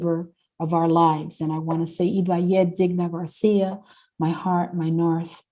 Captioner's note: speaking Spanish